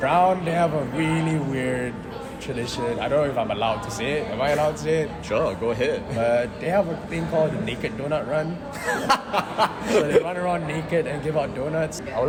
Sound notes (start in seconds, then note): 8.7 laughs